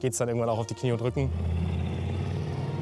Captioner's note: engine noises